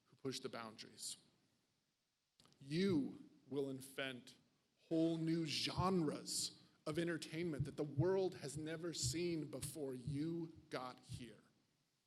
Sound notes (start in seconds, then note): none